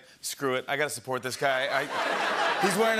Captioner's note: laughter